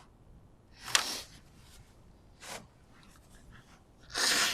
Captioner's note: crying; wiping nose